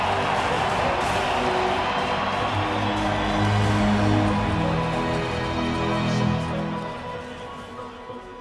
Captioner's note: applause